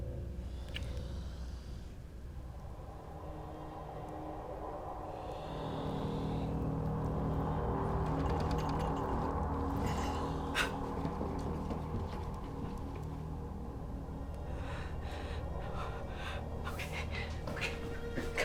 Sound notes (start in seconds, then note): 5.1 spider hissing; 8.1 spider clattering; 15.6 panting